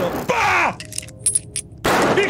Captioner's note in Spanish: Disparo; grita; Disparo